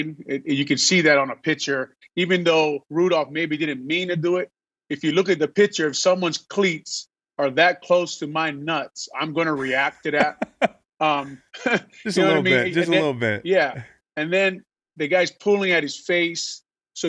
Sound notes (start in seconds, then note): 9.5 laughing